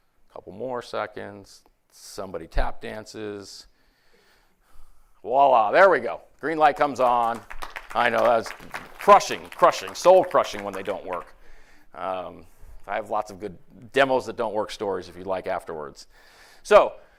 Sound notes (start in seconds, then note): 10.5 applause